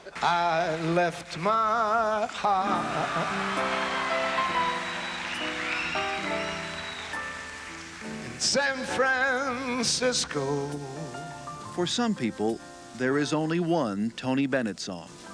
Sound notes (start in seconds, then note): 3.5 applause